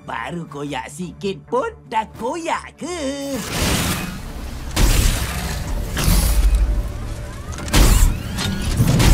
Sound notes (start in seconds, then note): 4.6 whirring, clanking; 5.8 ominous music playing